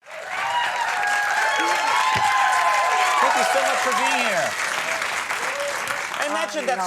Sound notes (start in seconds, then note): 0.0 audience cheering and applauding